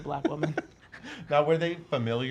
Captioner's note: laughs